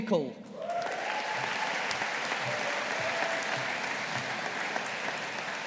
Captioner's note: audience applauding